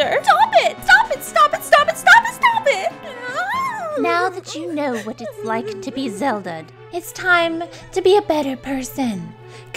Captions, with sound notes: - Stop it, stop it, stop it, stop it, stop it, stop it. (cries) - Now that you know what it's like to be Zelda'd, it's time to be a better person.